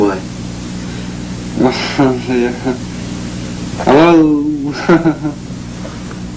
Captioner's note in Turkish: gülüyor